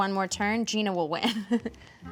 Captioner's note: laughs